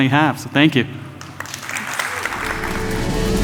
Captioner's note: audience applauding; upbeat music